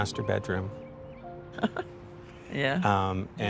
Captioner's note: laughs